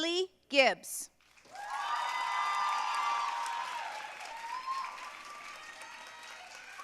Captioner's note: audience cheering and applauding